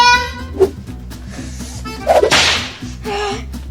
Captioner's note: snap